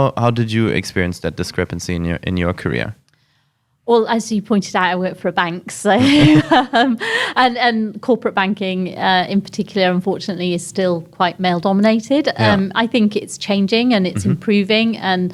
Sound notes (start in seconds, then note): 5.9 laughs